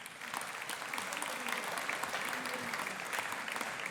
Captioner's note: audience applauding